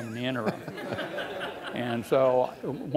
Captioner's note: laughing